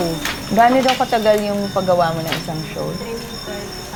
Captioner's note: speaks in local language